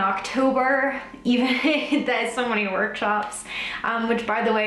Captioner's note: laughs